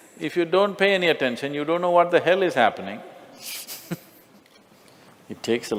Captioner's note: Smích